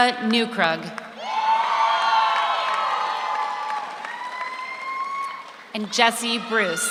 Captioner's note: audience cheers; audience applauds